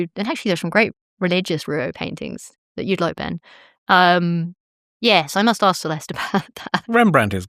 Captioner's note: chuckles